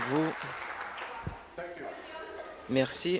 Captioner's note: applause